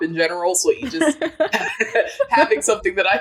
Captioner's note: both laughing